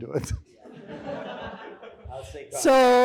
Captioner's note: audience laughing